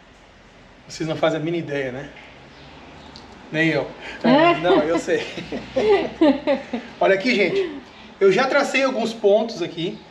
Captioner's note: laughs